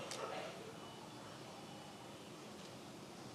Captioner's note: none